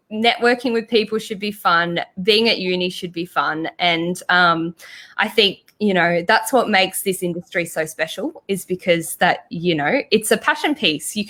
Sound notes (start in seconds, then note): none